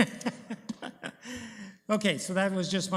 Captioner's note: laughs